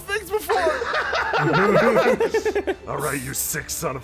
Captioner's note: laughter